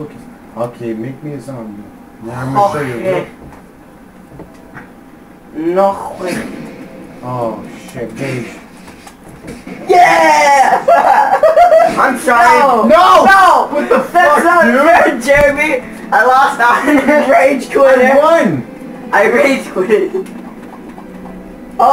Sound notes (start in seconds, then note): 3.6 weird accent